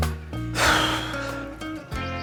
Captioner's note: snorts